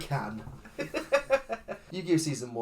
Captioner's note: laughs